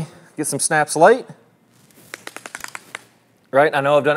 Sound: device snaps

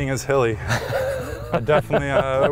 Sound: laughter

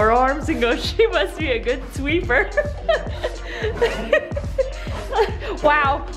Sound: laughing

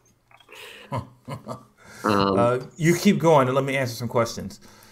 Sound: laughs

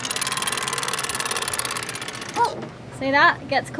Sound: rope cranked

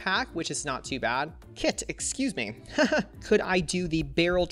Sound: laughs

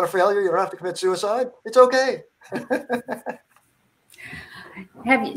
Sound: laughs

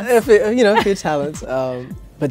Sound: laughs

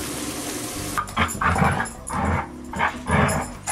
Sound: growling

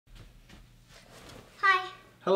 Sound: soft footsteps

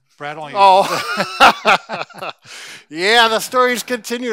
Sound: both chuckle

